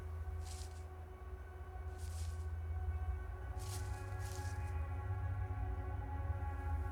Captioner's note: suspenseful music; footsteps crunching